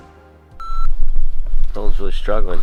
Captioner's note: beep